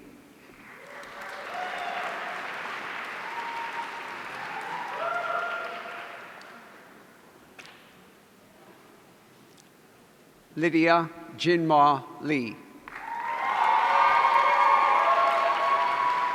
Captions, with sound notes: (audience cheering) Lydia Jinmo Li. (audience cheering)